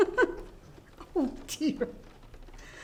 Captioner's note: person laughing